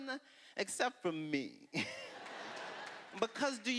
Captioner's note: laughter